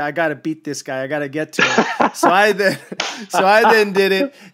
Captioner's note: laughs